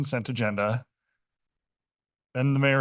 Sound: pause

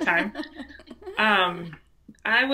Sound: laughs

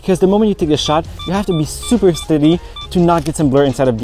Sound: camera chimes

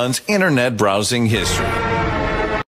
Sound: dramatic sound effects

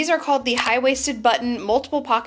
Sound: mouse clicks

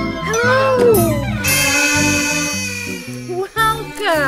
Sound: horn tooting

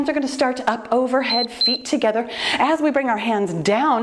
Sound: timer beeps

